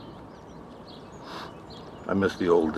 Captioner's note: sniffing